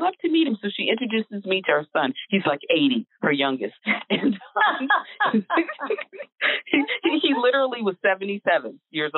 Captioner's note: laughter